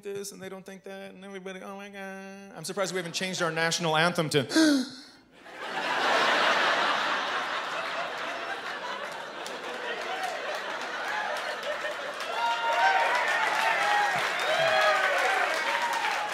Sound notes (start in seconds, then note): 4.4 gasps; 5.9 laugher and applause; 11.9 hooting and cheering